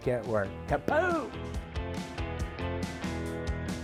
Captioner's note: shouts